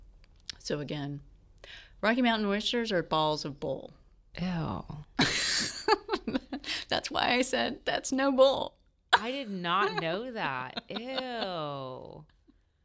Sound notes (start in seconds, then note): 6.0 laughs